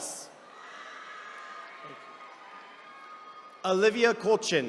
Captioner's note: attendees cheering